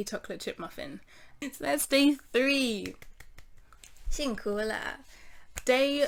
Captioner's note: clap clap clap